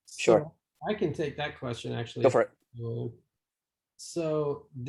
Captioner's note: calm Voice